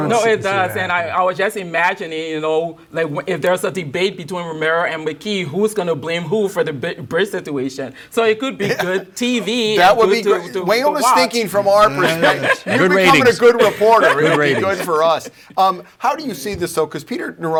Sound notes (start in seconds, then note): 14.1 chuckles